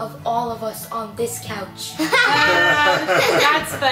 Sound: laughing

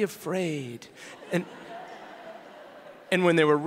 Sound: audience laughing

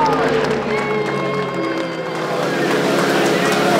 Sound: cheering

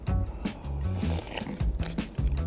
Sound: slurp

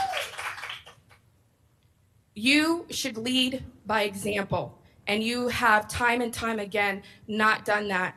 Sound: applause

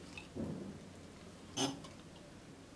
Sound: snort

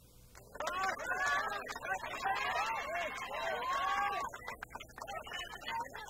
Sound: crowd cheering

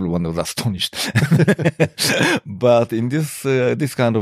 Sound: laughter

